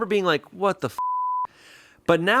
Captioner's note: beep